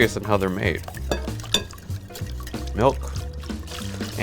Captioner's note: forcefully whisking liquids